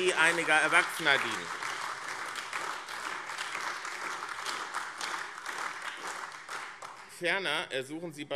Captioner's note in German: Beifall AfD